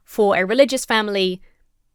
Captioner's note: none